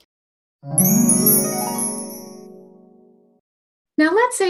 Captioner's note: chimes tinkling